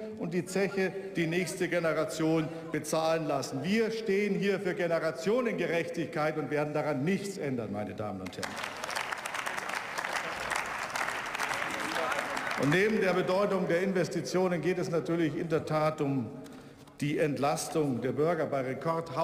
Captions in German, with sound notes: und die Zeche die nächste Generation bezahlen zu lassen. Wir stehen für stehen für Generationengerechtigkeit und werden daran nichts ändern. Meine Damen und Herren. [Beifall] Neben der Bedeutung der Investitionen geht es um die Entlastung der Bürger.